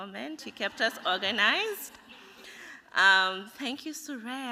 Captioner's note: laughter